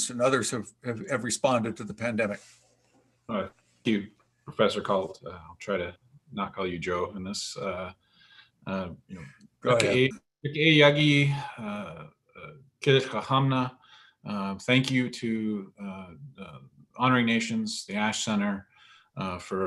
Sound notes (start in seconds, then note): 9.6 speaking foreign language